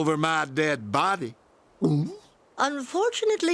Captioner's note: gulp